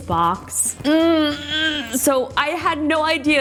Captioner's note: groans